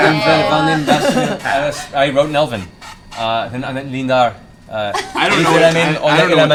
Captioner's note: speaking in Elven